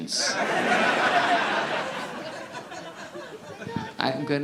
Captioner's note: audience laughing